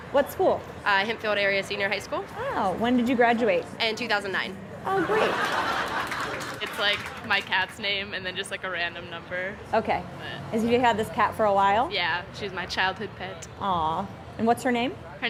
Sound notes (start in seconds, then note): 4.8 laugh